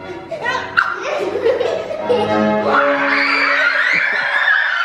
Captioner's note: kids screaming